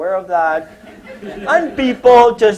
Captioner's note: laughter